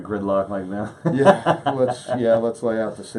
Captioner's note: laughs